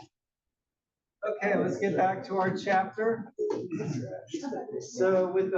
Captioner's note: cough